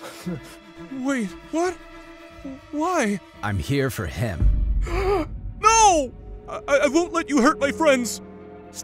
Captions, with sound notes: - Wait, what? Why? - I'm here for him. (MrBeast gasps) - No! I won't let you hurt my friends.